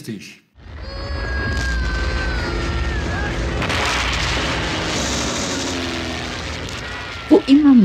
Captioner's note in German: Explosionen